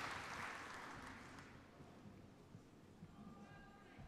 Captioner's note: applause